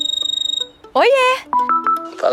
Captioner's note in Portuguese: Toque de celular